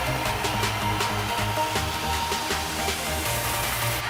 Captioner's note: cheers and applause